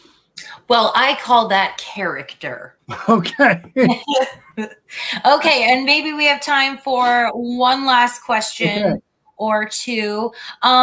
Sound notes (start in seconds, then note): 2.9 laughter